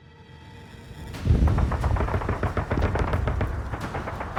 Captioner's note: guns bang